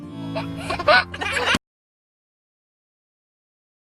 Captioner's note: baby laughs